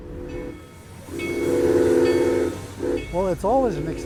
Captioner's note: engine roars